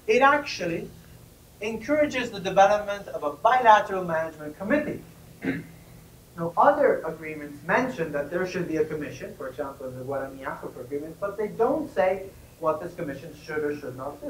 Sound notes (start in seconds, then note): 10.1 spanish